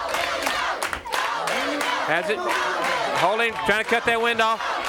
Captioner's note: crowd cheering